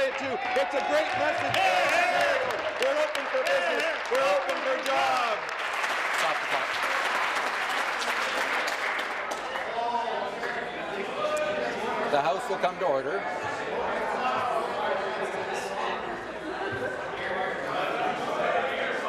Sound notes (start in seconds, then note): 6.7 applause; 10.8 applause